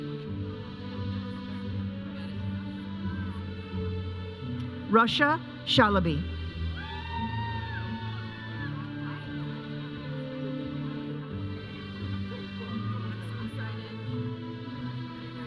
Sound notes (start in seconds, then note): 0.8 processional music; 6.7 audience cheering; 8.8 audience chattering; 10.3 processional music; 15.2 audience chattering; 15.2 processional music